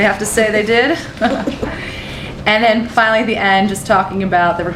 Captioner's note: laughter